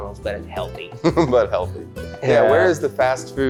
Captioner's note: laughs